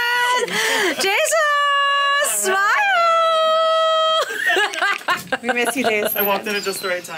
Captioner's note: laughs